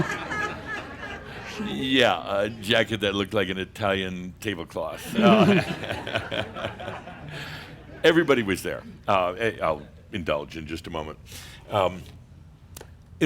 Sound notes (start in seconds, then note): 0.0 some chuckles; 5.0 more chuckles